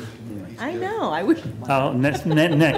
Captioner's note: laughter